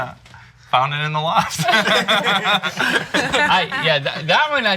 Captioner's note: laughs